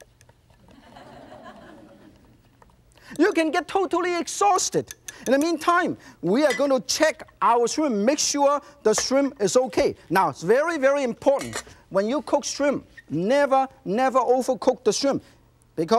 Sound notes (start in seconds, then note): 0.7 audience laughs